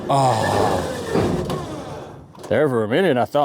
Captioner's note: truck Engine Revs